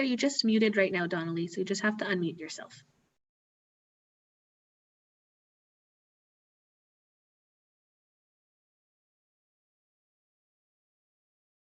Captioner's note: silence